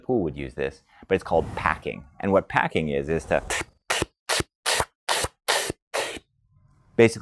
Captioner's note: breathes in sharply and repetitively